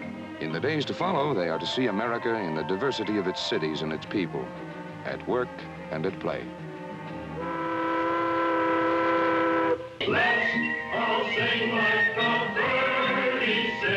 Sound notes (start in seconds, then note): 7.3 boat horn